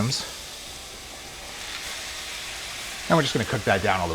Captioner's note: sizzling